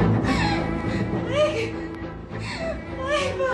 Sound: crying

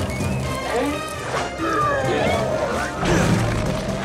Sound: grunting

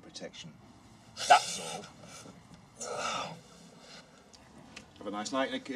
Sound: Jack wincing

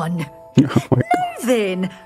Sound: muffled laughter

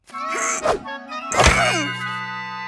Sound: grunts

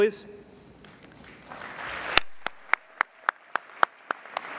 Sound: applauding

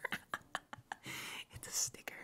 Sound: laughing

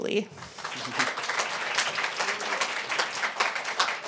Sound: applause

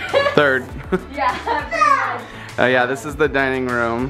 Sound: laughter

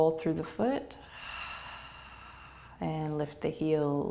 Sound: exhaling

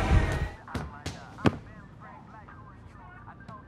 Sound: ball bouncing

